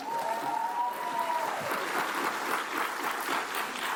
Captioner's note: cheers and applause